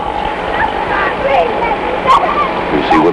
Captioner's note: woman yelling incoherently